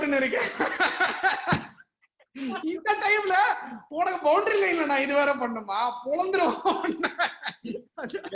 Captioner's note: laughter